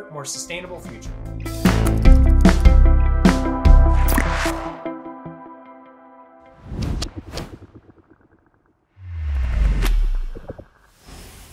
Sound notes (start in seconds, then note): 0.0 lively upbeat music; 4.4 lively upbeat music fades; 6.5 icons whooshes; 8.9 logo droning